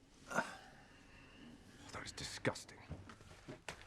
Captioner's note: Rob groans